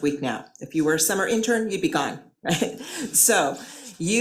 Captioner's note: chuckles